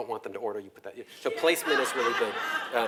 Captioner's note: laugh